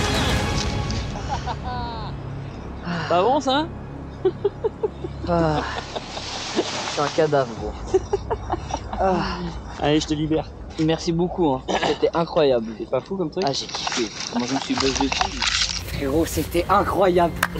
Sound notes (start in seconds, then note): 4.1 laugh